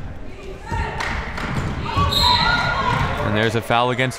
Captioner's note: cheering